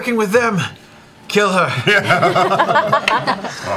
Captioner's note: laughter